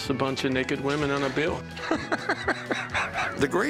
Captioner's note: laughs